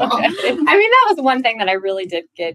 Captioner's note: laugh